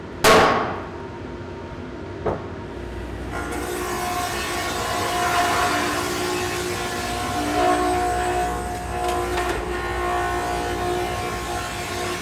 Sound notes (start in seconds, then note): 0.3 wood pounds; 4.1 surfacer whirring